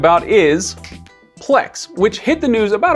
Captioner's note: fingers snapping